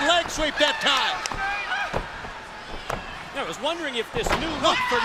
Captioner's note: crowd chatter